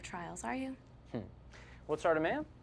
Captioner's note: scoffs